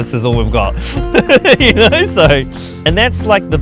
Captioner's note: laughing